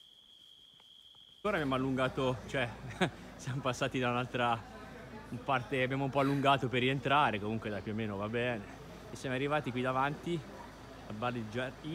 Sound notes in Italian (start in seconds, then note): 2.7 risata